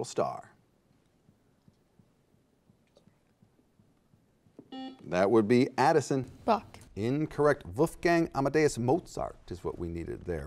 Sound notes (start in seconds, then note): 4.7 buzzer beeps